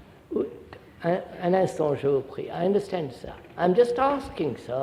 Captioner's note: French